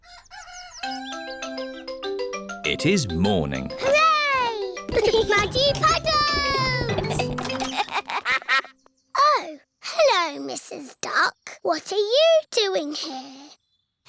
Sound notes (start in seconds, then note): 0.0 cockerel crows; 6.4 giggling; 7.7 quacks